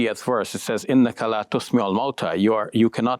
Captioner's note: speaking in Arabic